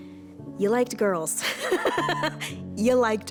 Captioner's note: laughs